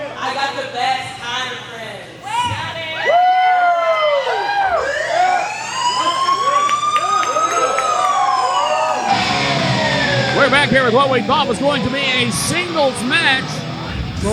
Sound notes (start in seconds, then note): 4.9 siren blaring; 7.8 audience cheering; 7.9 energetic music playing